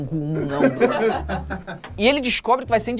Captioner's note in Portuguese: risadas